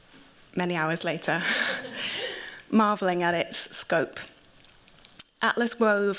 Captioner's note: chuckles